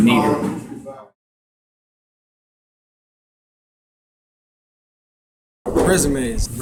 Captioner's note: silence